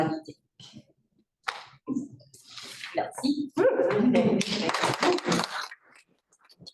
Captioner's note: appluse